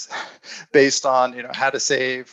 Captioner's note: chuckles